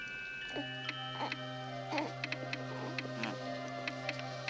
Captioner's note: geiger counter clicks, baby fusses